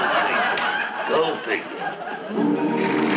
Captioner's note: audience laughing; quiet music beginning; audience applauding